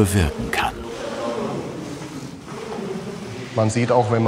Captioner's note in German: Leise Gesprächsfetzen